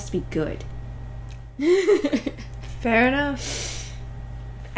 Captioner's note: laughter